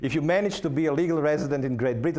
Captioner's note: none